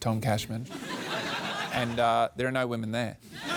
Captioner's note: laughter